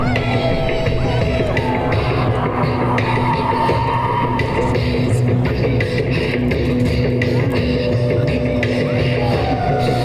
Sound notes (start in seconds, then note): 0.0 Oberon howling; 2.0 audience howling; 8.7 Oberon howling